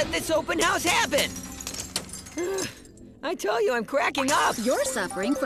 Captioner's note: glass breaking